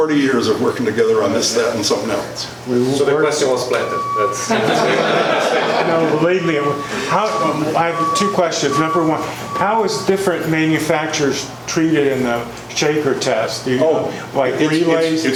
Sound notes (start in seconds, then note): 4.4 laughs from audience